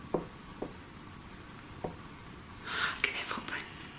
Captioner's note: knocking